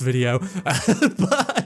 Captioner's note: laughing through the pain